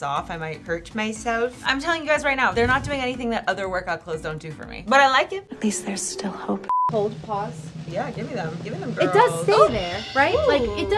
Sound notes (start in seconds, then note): 6.6 beep